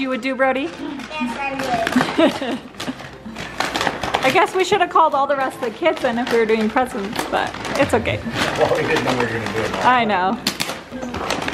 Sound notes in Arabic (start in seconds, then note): 2.1 ضحكات خافتة من الكريستال